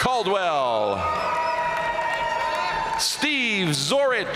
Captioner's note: audience cheering and applauding